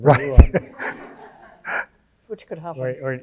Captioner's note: audience laughing